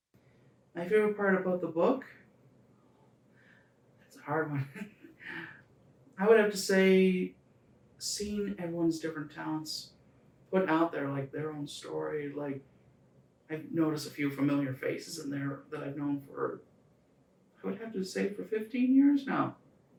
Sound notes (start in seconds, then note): 4.2 chuckles